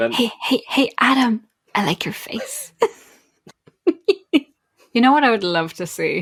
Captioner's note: laughs